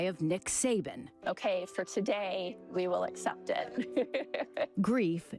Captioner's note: laughing